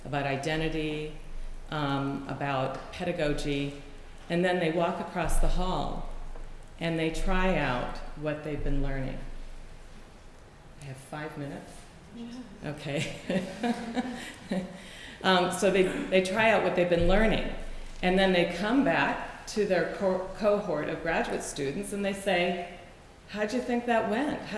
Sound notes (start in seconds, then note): 13.0 laughter